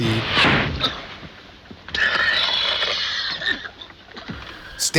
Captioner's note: coughing